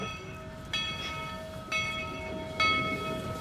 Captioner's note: bell clangs